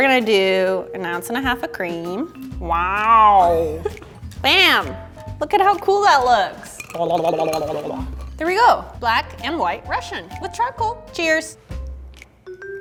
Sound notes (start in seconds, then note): 6.3 bubbling